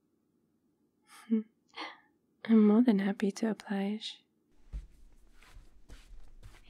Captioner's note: footsteps